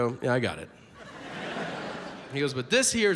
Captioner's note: audience laughs